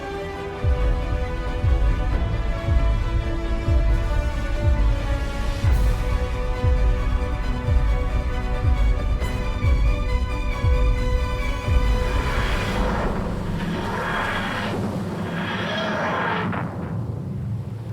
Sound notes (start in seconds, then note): 0.6 timer ticking